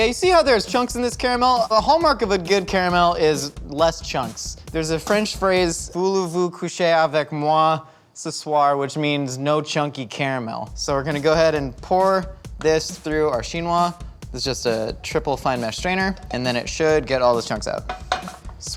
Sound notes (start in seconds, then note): 6.7 speaks in foreign language